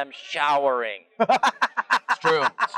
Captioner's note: laughs